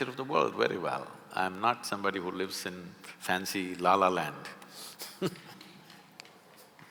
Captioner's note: laughs